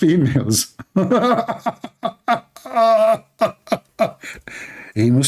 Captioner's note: Ketawa